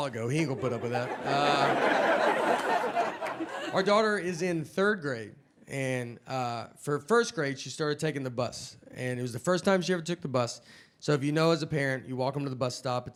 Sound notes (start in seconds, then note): 0.3 audience laughing